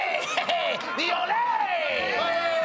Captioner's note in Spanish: Gritos